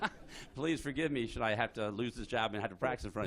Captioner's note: laughter